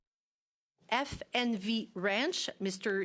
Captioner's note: speaking in French